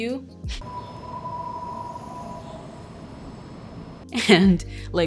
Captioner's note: engine whining